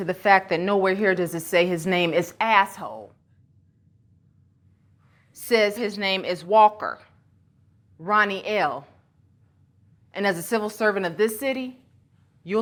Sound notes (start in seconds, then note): none